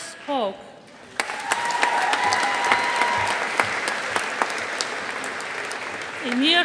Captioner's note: audience applauding